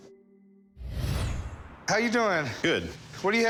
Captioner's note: whoosh